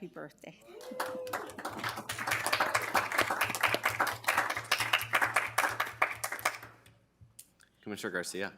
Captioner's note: applause